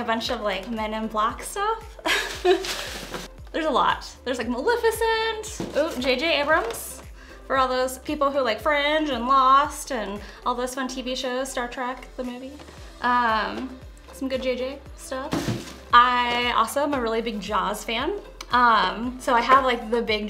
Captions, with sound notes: of, like, "Men in Black" stuff. [ Chuckles ] There's a lot. There's, like, Maleficent. Ooh, J.J. Abrams, for all those people who like "Fringe" and "Lost" and all those fun TV shows -- "Star Trek," the movie. Some good J.J. stuff. I also am a really big "Jaws" fan, so I have, like, the big